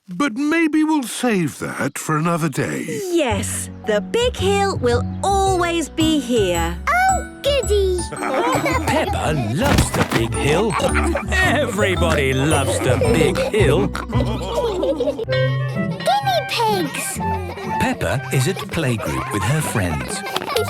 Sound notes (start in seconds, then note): 7.9 laughing; 14.0 all laughing